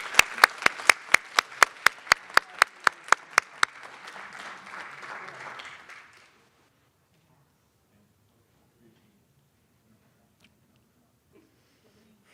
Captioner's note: applause